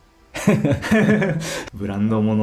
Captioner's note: laughs